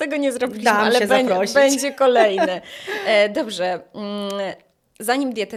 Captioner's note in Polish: śmiech